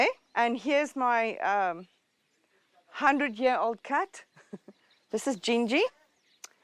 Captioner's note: laughs